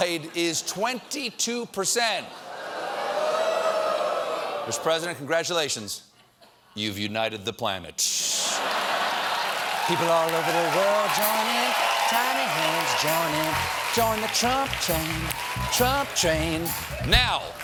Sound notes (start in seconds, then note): 8.5 laughter